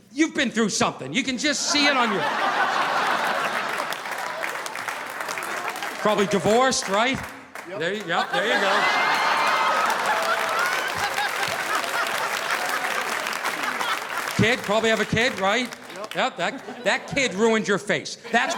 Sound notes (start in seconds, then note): 9.5 audience applauding; 9.5 audience laughing